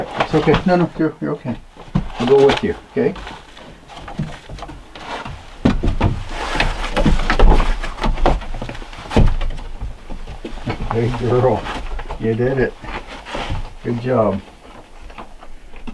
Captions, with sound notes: Yeah, it's okay. No, no, you're, you're okay. I'll go with you, okay? (Cali skittering) Big girl, you did it. Good job.